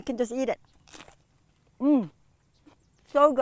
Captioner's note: cucumber crunching